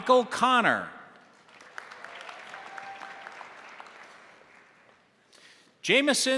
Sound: crowd applauding; crowd cheering

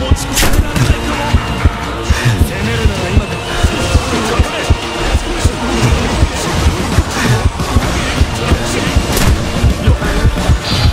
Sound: pained breathing

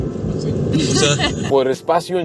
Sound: laughter

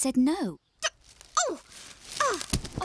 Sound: thud!

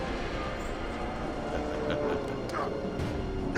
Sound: laughs

